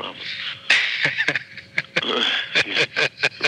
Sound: chuckles

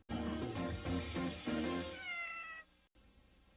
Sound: Mimsie mews

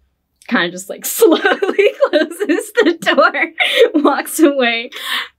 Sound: laughs

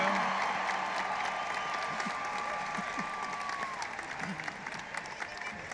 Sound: audience applauding and cheering

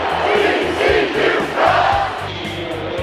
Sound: crowd

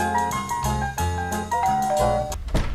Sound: doorbell

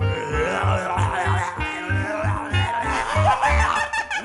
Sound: growls; laughing

